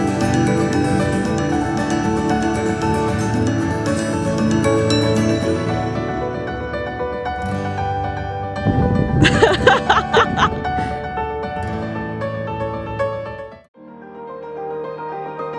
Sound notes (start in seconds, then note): 9.1 laughter